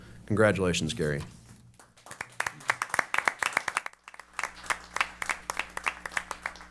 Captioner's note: applause